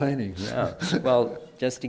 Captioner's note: laughs